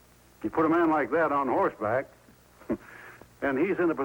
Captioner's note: chuckles